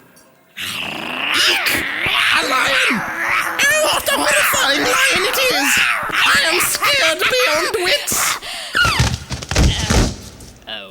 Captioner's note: roaring